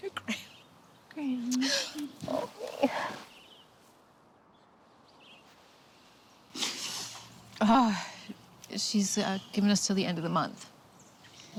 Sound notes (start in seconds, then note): 1.5 sobs; 8.3 sighs